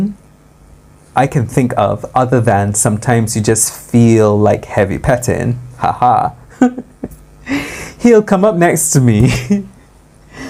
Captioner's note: haha